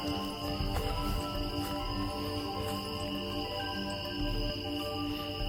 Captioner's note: footsteps rustling